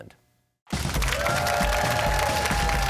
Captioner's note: crowd cheers and applauds